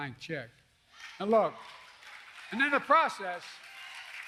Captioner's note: applause